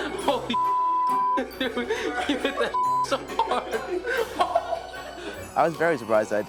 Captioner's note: beep; beep